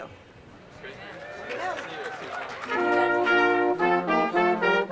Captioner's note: cheers and applause